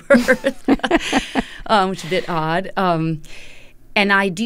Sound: laughter

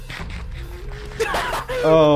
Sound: laughing

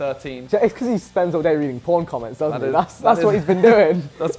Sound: giggle

